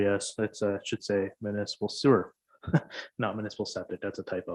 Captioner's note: chuckles